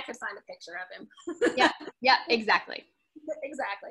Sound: laughs

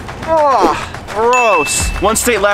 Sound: groans

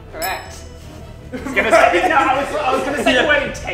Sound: laughs

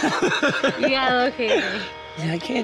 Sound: laughing

